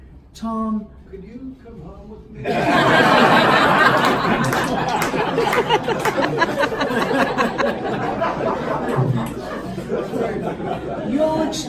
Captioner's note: laughter; more laughter